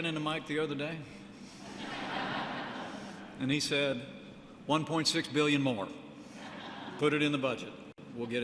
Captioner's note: laughter